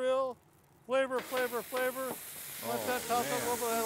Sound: grill sizzling

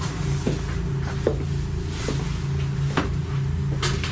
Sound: footsteps

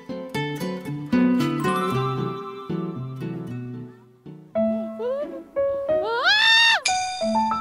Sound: getting a bottle with a shriek

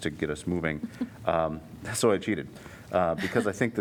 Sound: laughter

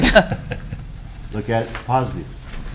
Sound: people chuckling

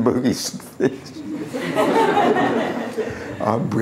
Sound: laughter

